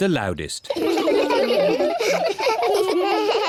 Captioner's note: all laugh